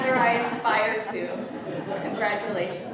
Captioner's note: laughter